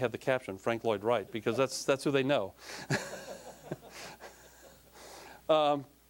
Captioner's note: all laughing